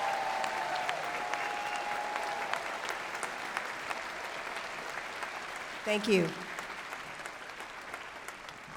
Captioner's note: applause